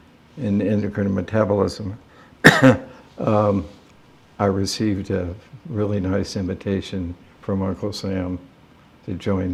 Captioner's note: coughs